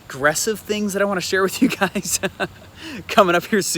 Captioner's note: laughs